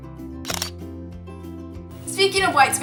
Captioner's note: shutter sound